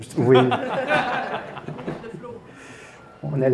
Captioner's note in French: rires